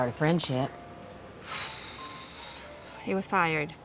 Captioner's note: blows air